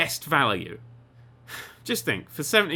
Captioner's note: sigh